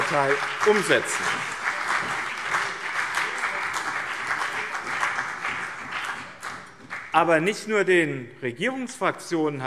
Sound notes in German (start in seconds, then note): 1.6 Beifall BÜNDNIS 90/DIE GRÜNEN und CDU